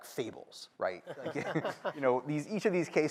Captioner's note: laughter